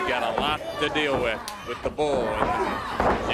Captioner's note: crowd chatter